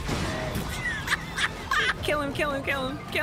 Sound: laughter

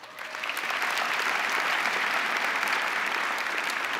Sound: crowd applauding

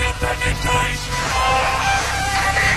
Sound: yells

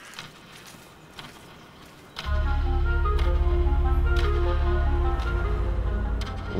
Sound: gentle music; clock ticks

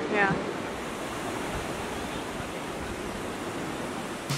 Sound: waves lapping

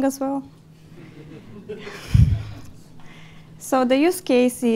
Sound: laughter

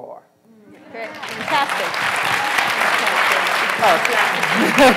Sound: applause

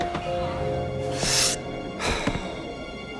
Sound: inhales deeply

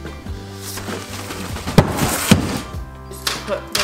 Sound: box bumping

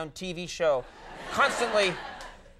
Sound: audience laughing

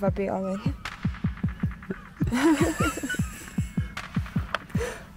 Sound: laughing

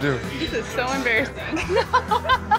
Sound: laughing

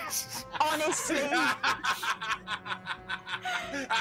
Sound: laughing

